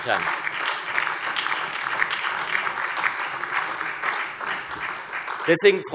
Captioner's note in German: Beifall SPD und DIE LINKE